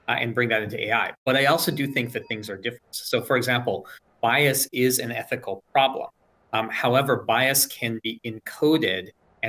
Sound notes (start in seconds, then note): 1.4 bell dings